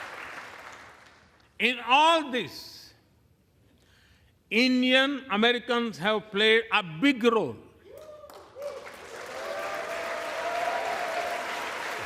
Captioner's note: applause